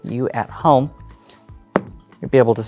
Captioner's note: thumps deck